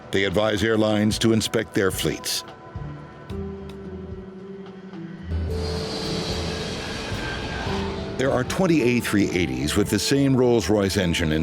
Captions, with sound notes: They advise airlines to inspect their fleets. (gentle music) (plane roaring) There are 20 A380s with the same Rolls Royce engine